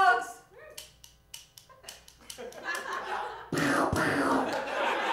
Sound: gun Clicking

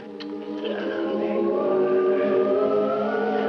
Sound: soft humming

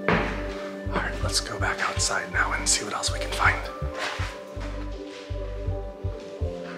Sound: whispers

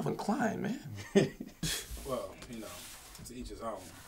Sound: chuckling

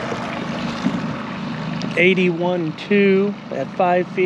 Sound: winch motor running

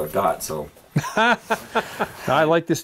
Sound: laughing

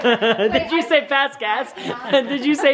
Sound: voiceover

